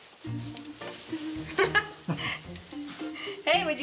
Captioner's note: laughs